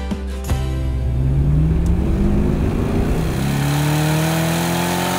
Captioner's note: engine revving